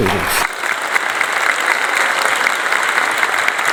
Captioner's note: applause